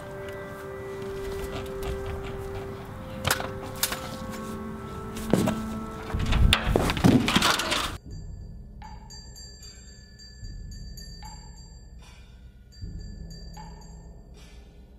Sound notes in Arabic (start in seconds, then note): 7.3 رنين أجراس الرياح; 12.6 طقطقة إيقاعية